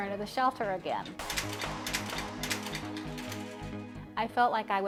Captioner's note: gate lock clicking